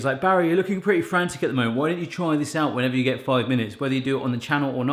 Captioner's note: none